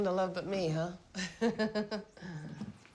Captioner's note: laughs